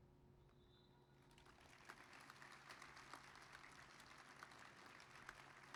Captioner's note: applause